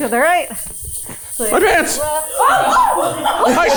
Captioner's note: mumbling; chuckling; crew members chuckling